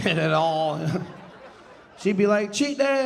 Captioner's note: audience laughing